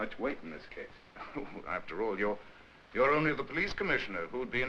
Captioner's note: chuckles